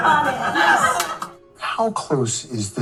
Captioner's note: laughing